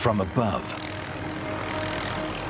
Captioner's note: helicopter chopping